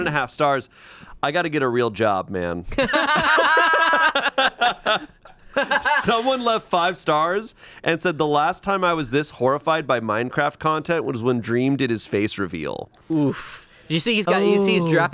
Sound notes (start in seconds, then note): 2.7 group laughs